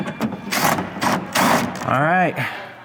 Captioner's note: machinery whirring